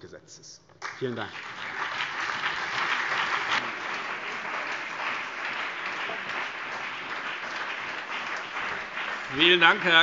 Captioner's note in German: Beifall BÜNDNIS 90/DIE GRÜNEN, CDU, SPD und DIE LINKE